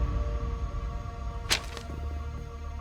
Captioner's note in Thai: เสียงคลี่กระดาษ